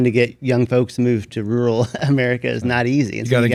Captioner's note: chuckles